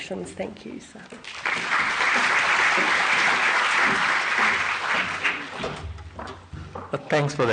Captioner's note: applause